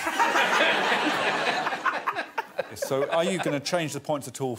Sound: all laughing

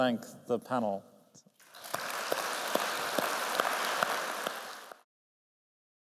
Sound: applause

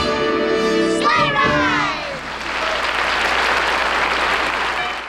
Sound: audience applauding

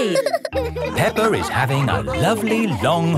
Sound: all laughing

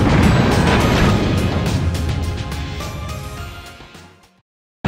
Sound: game audio

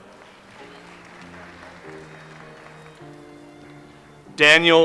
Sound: audience applauds

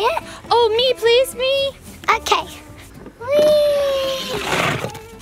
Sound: doll sliding

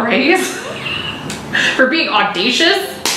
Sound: laughs

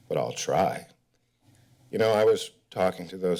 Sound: pause

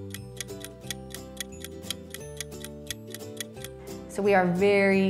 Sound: ticking sound

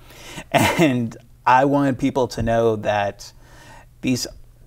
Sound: chuckles

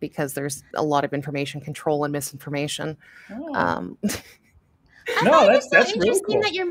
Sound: chuckles

